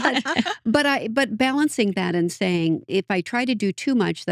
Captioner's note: both Laughing